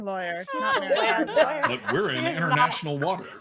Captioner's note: group laughing